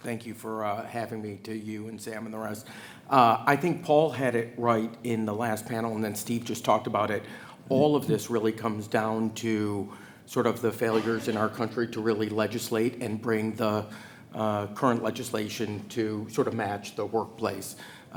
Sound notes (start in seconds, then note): 10.8 attendee coughing